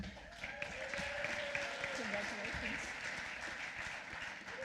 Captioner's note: applause